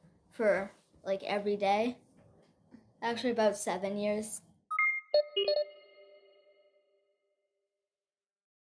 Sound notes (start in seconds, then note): 4.7 beeping